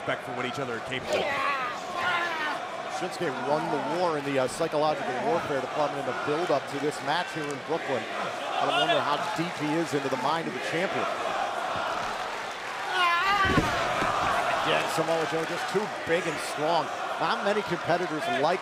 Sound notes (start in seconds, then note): 11.0 crowd cheering